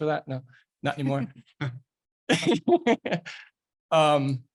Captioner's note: laughing